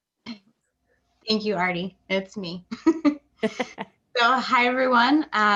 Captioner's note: laughs